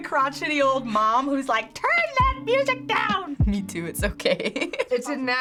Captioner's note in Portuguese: risos